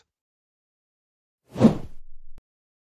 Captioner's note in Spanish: FX - Whoosh - 03